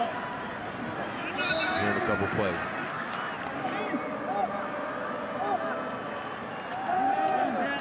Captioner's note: referee blows whistle